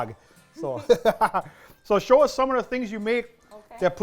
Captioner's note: laughter